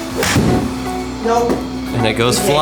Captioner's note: bang